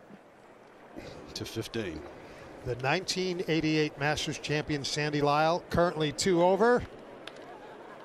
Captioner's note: applause